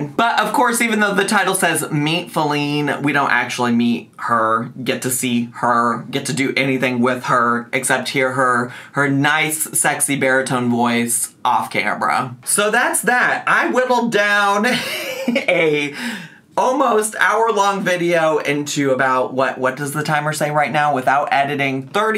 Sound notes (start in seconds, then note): 14.7 laughs